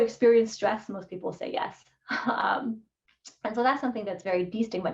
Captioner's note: laughter